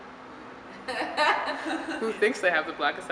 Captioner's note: nervous laughter